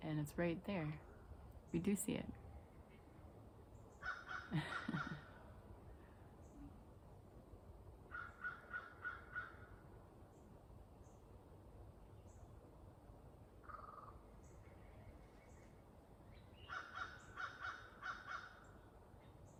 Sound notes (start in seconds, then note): 2.4 bird crows; 2.4 laughs